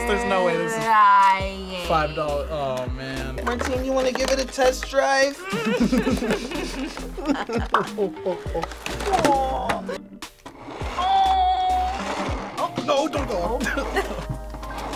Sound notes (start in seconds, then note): 5.3 both whimper; 13.4 both laugh